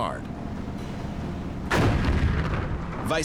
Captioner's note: cannon firing